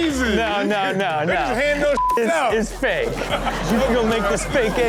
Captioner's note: beep